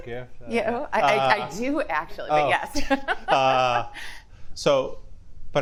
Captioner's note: laughs